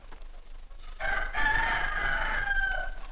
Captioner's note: rooster Crows